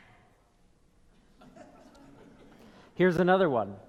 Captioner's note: people laughing